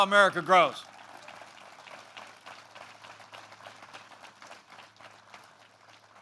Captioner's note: applause